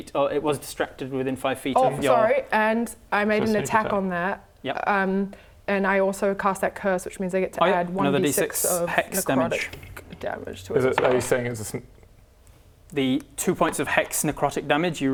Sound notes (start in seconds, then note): none